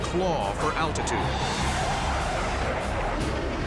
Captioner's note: jet engine noises